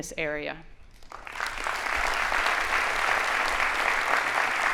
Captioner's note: audience applauding